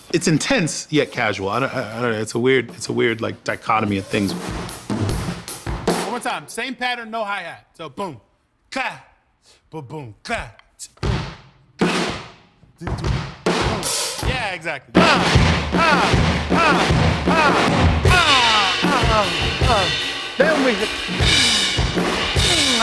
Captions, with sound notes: It's intense, yet casual. It's a weird, like, dichotomy of things. [DRUMMING] One more time! Same pattern, no hi-hat. So [IMITATING DRUM SOUNDS] [DRUMMING] Yeah, exactly. [VOCALIZING] [DRUMMING]